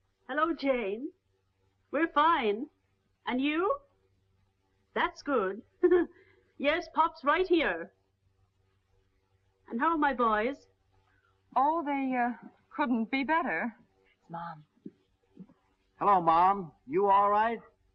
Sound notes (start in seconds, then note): 5.2 laughs